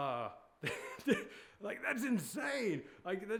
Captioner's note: laughing